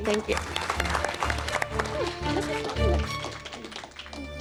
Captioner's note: applause